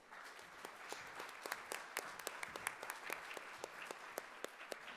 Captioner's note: audience applauding